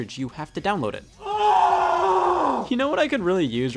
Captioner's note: groaning in despair